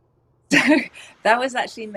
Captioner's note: laughs